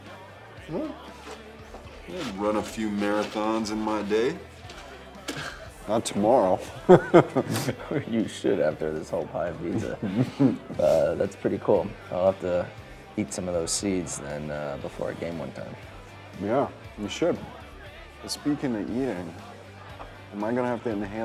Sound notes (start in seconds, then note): 6.3 chuckles; 6.5 Drew laughs